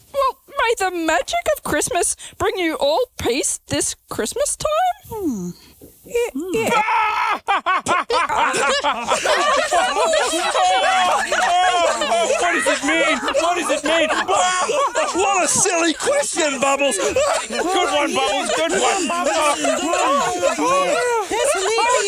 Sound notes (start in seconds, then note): 6.4 Percival laughing; 10.4 other puppets laughing; 14.6 laughs; 17.2 laughs